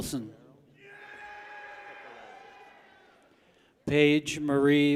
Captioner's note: people cheer